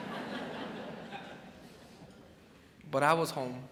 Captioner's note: crowd chuckles